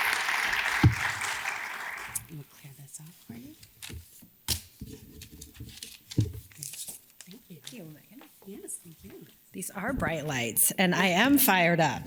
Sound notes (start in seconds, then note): 4.7 paper rustles